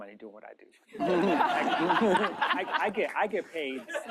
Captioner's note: laughter